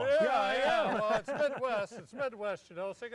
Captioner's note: laughing